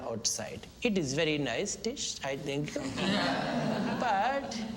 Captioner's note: students Laugh; 学生笑